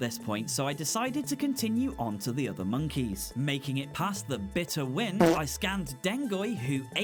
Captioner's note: fart